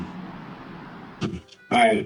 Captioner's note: noisy hospital